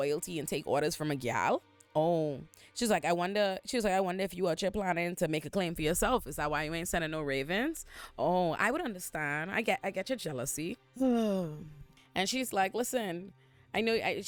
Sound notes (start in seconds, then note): 11.0 sighs